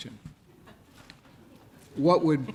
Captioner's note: laughs